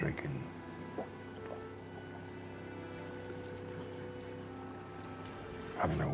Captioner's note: pensive music; engine rumbling